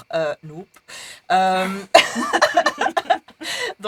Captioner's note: laughs